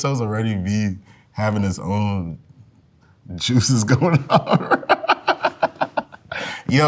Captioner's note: laughs